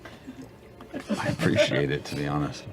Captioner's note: laughs